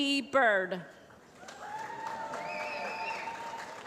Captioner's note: applause